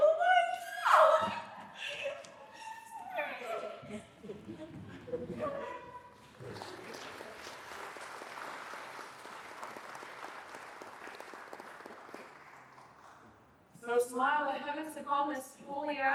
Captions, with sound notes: what? [laughter] [applause] So smile, I haven't sick all my school yet.